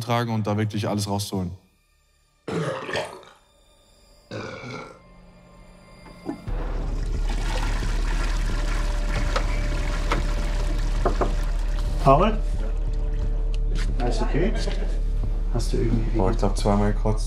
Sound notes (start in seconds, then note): 4.3 sounds of throwing up; 6.2 flushing the toilet; 9.3 knock on the door